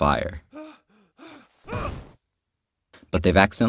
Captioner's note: screams